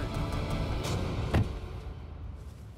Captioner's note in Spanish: portazo